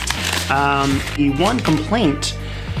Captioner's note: rustling